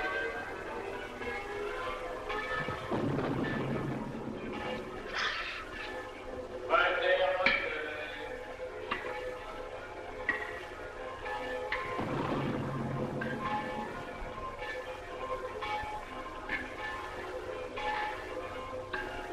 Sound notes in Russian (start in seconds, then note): 7.7 Отче наш, на латыни